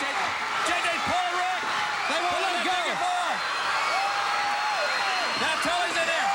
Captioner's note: crowd cheering